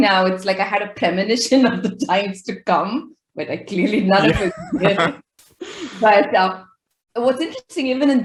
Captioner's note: laughing